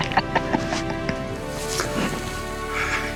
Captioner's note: laughing